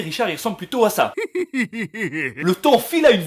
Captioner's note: laughing